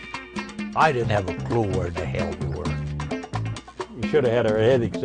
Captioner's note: voiceover